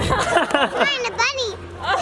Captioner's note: laughter